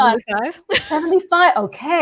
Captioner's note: laughs